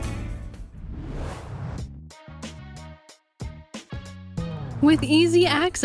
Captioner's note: whoosh